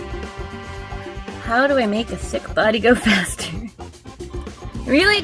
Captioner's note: laughs